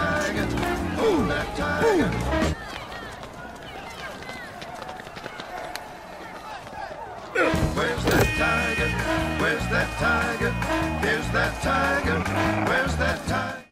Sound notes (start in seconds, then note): 2.3 music Stops; 7.3 car Horn sounds